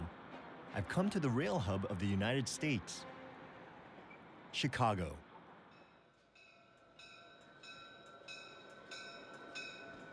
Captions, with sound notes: I'VE COME TO THE RAIL HUB OF THE UNITED STATES--CHICAGO. [ BELL DINGING ]